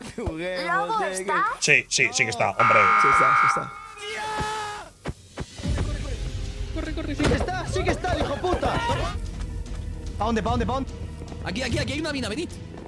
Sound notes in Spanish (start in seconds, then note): 2.6 gritan